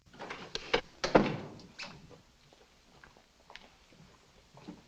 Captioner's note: door thuds shut